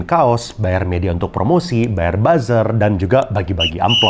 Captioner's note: buzzer